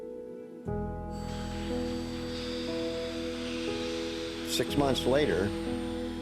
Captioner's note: machinery hissing